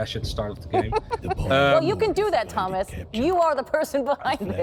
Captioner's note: laughs